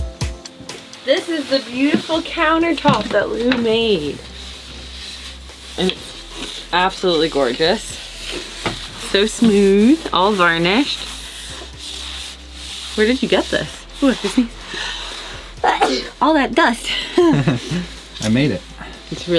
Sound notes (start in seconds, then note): 15.6 sneezes; 16.8 laughs